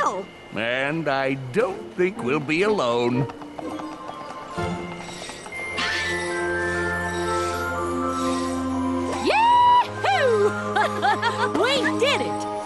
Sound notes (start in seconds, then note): 5.3 cutie marks ringing; 10.0 Rarity & AJ laughing